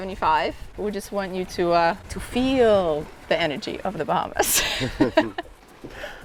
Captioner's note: laughs